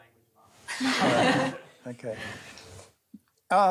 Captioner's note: laughter